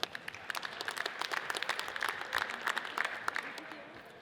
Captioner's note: audience applauds